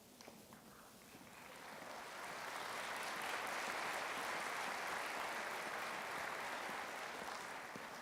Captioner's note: applauding